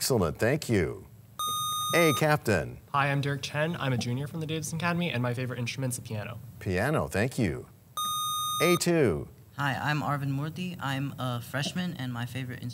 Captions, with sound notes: -Excellent, thank you. (sound of a buzzer) A-Captain. -Hi. I'm Derek Chien. I'm a junior from the Davidson Academy, and my favorite instrument is the piano. -Piano, thank you. (sound of a buzzer) -A-2. Hi. I'm Arvind Murty. I'm a freshman, and my favorite